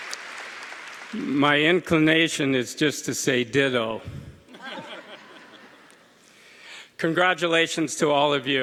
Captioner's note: applause